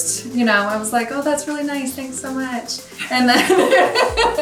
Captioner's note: both laugh